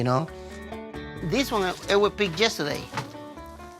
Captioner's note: cucumber snapping; bottle crinkling